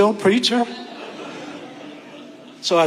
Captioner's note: audience laughing